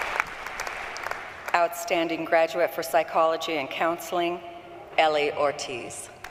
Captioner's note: applause